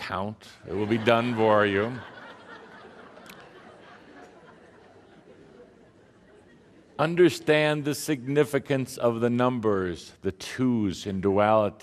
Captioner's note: much laughter